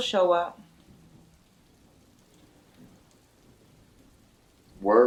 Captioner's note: rain pouring